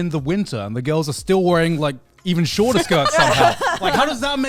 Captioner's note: men laugh